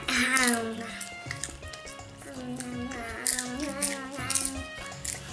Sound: crunching; humming

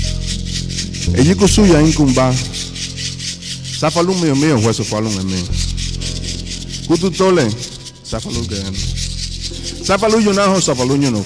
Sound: non-english speech

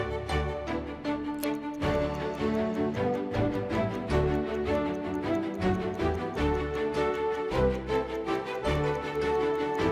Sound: clicking, ticking sound

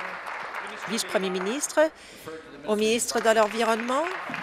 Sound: applause

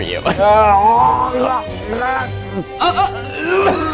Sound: man gagging; man coughing

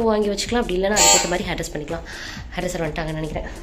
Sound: doorbell rings

